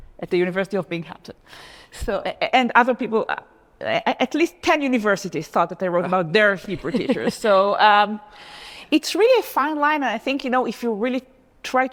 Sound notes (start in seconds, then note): 6.7 laughs